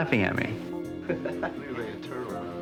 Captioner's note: laughter